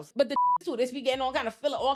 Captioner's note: beep